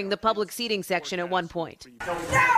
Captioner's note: protesters yelling